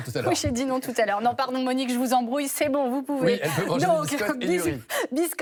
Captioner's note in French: rires